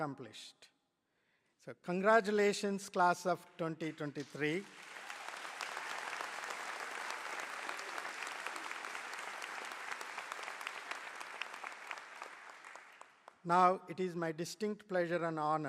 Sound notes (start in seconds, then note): 3.8 applause